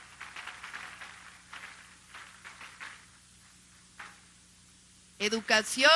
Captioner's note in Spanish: aplausos